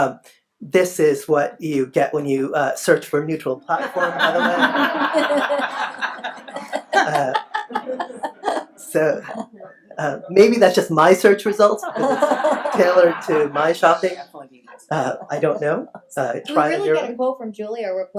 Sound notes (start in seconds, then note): 6.9 laughs; 11.8 laughs